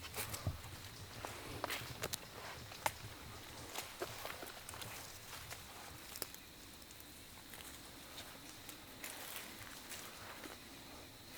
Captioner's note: walking